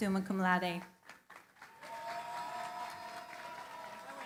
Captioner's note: cheering, applause